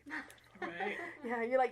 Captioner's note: chuckling